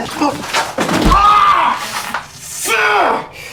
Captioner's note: Miles groans